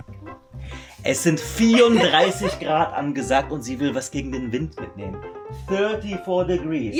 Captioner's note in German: gelächter